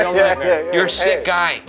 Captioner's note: laughing